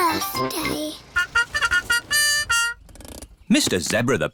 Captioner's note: horn tooting